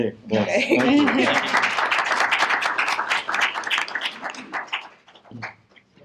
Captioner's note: laughter; applause